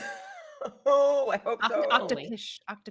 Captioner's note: person laughing